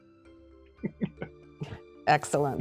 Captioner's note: laughter